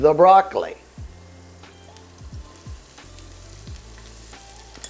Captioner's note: pan hissing